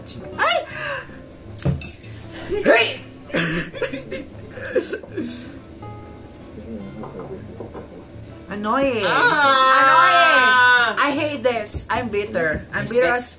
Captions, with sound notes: GRRRR THEM AGAIN [gay jealous noises]